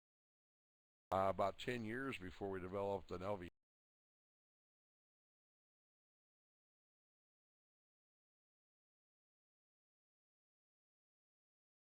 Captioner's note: audio drops; audio drops